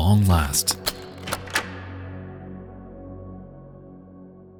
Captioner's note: door unlocks